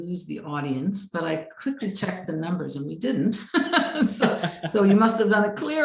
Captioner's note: laughs